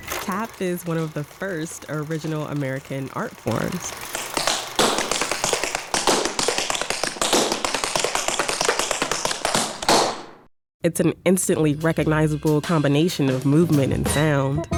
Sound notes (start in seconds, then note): 4.2 rhythmic tap sounds